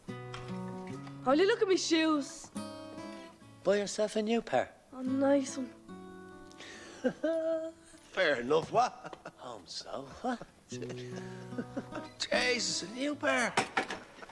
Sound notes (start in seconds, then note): 6.7 Risas